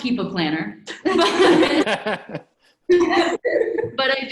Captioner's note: laughs